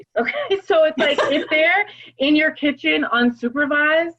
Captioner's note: laugh